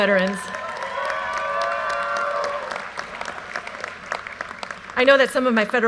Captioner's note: audience cheers and applause